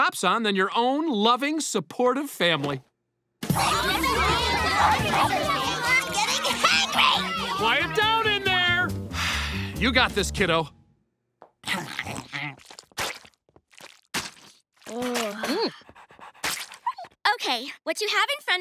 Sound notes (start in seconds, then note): 3.5 arguing; 9.1 sighs